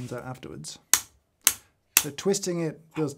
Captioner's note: switch clicking loudly